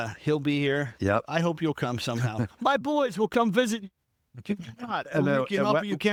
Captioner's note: laughs